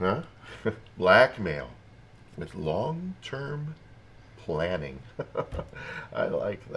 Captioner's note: chuckles; laughs